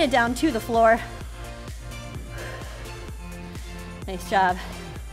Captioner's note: upbeat music continues; breathes heavily